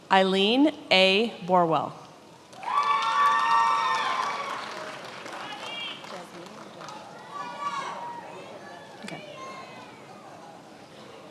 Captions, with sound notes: Eileen A. Borewell. (attendees applauding) Jazmine? Okay.